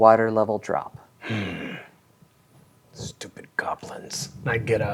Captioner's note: growls